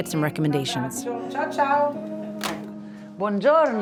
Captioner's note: receiver clicks